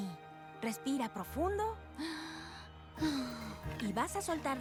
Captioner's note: inhale